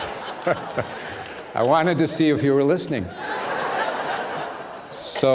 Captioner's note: laughter